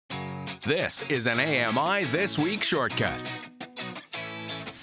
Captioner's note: voiceover